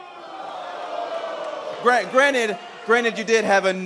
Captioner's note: crowd response